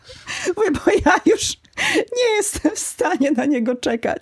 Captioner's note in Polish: śmiech